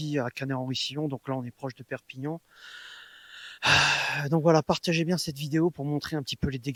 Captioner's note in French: soupir